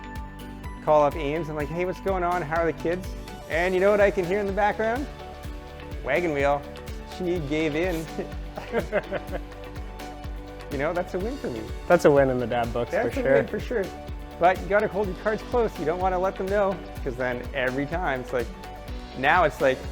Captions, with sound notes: called up Ames and was like, "Hey, what's going on? How are the kids?" and you know what I can hear in the background? Wagon wheel! She gave in. *Laughs* You know, that's a win for me! That's a win in the dad book for sure. But you gotta hold your cards close, you don't want to let them know! Because then, every time, it's like. Now it's like,